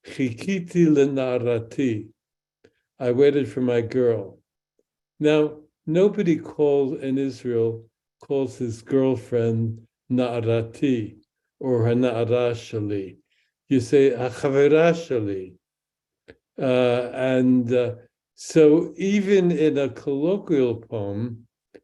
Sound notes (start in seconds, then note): 0.2 speaks in Hebrew; 9.3 speaks in Hebrew; 14.1 speaks in Hebrew